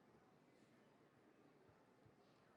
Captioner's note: none